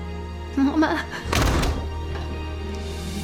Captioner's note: door shuts